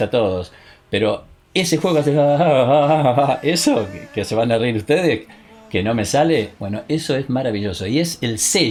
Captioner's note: aha ahahha ahha